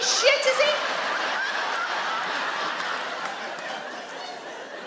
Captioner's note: audience laugh